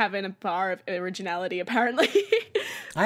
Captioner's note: laughs